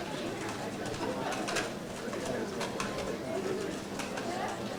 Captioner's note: audience chattering